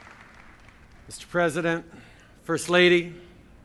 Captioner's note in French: Applaudissements